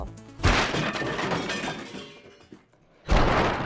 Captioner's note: wood slams